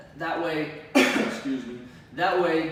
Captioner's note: cough